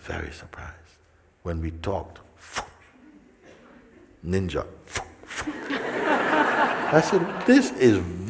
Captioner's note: laughter